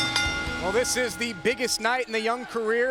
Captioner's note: bell ringing